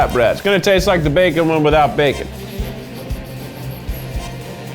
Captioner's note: sniffs